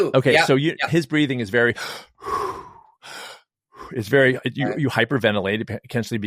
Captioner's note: breathes deeply